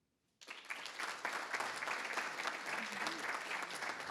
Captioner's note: everybody applauds